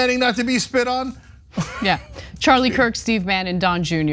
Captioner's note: laugh